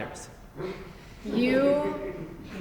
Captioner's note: audience laughs softly